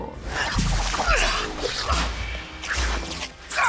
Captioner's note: death eater grunting